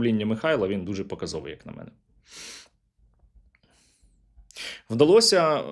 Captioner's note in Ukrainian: сопіння